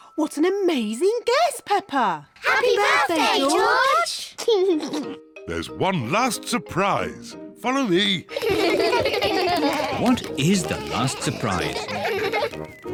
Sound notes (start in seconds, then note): 4.4 laughs; 8.2 kids laugh